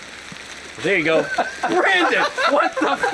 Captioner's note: laughing